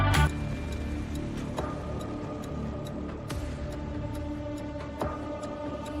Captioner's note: suspenseful music; timer ticking